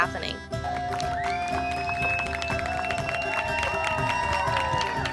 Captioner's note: applause